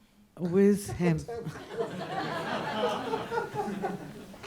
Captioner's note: audience laughs